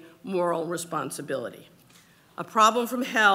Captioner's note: none